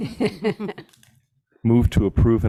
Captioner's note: people laughing